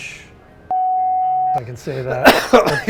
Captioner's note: beep